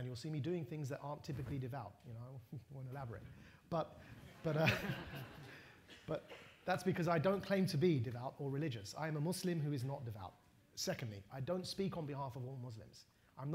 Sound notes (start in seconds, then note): 4.2 laughter